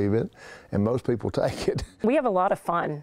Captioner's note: laughing